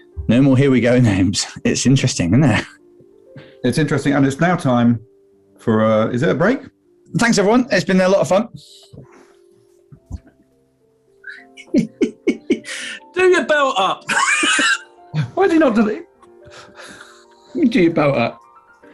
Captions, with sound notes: No more here we go names. It's interesting, isn't it? It's interesting, and it's now time... ...for, er, is it a break? Thanks, everyone. It's been a lot of fun. [GIGGLING] Do your belt up! [LAUGHING] Why's he not done his...? [GIGGLING] YOU do your belt up!